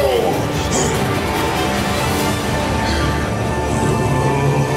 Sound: both grunting

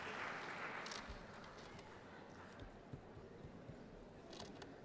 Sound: applause

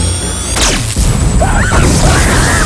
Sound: explosions; screaming

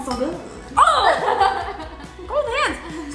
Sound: yells; laughs

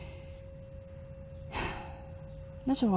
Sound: sigh

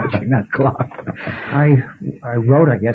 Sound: laughter

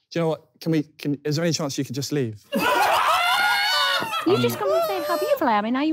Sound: screaming

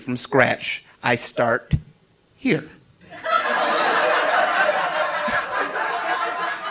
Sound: audience laughing

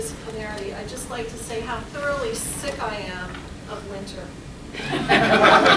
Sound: laughter

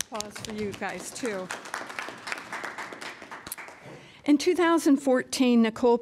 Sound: applause

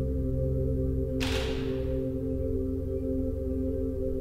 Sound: shutter clicks

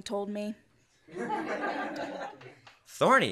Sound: laughter

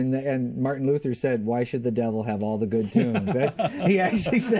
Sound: laughter

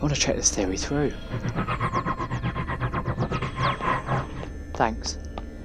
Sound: Tardis makes a noise a helpfulness

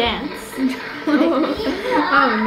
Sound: laughing

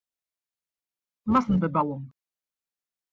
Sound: fast Pronunciation

